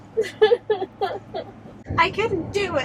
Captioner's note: laughs